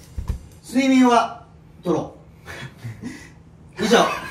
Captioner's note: snickering